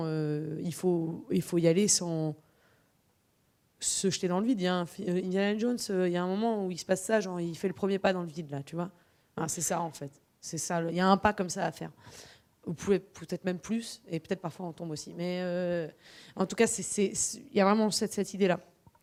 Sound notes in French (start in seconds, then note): none